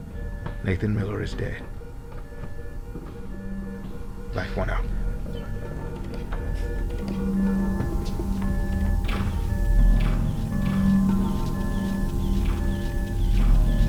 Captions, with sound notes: Nathan Miller is dead. Life One out. ( DEVICE BEEPING )